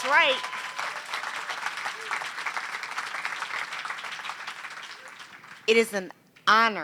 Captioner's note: applause